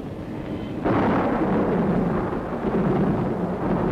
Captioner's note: thunderstorm